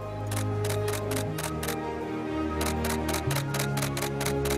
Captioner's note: camera clicks